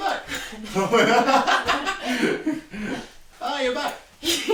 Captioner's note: both laughing